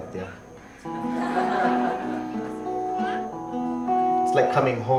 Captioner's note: audience laughs